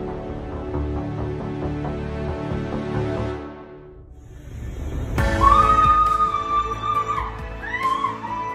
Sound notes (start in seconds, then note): 5.3 screaming